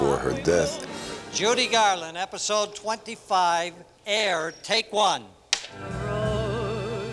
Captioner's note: clapperboard claps